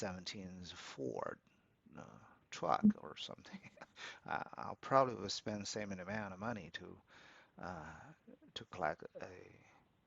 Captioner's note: laughs